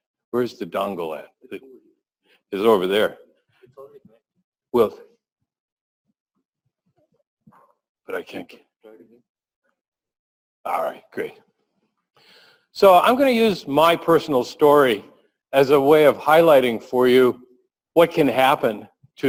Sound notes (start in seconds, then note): 4.2 pause